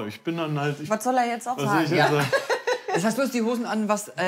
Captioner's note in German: Lachen